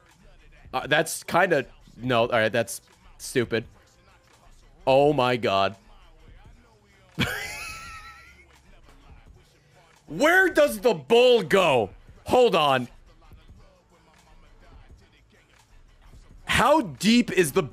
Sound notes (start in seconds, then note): 7.2 laughs